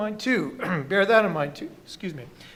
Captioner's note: clears throat